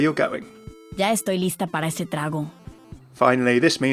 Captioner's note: Sombra speaking in foreign language